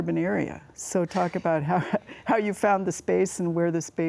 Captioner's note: laughs